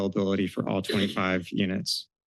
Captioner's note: sneeze